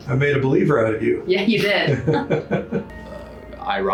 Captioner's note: chuckling